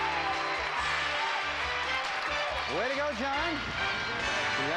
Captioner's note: audience applauding